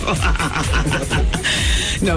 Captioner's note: laughing